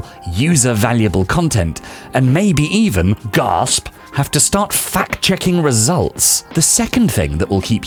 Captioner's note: gasp